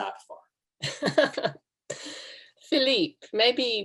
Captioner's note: laughs